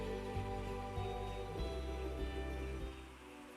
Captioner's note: sounds of a little glade